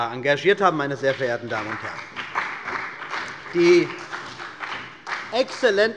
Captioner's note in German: Beifall bei dem BÜNDNIS 90/DIE GRÜNEN und der CDU